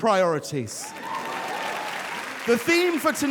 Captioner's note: audience cheers and applauds